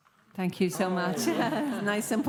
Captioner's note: laughter